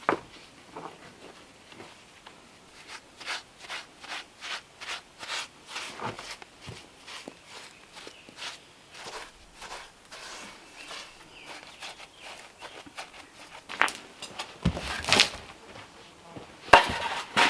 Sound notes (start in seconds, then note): 3.6 scraping